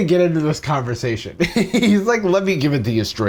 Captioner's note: chuckles